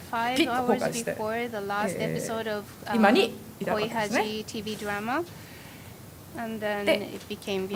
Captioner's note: japanese